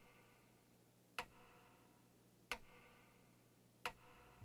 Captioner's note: clock ticking